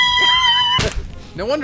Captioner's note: thud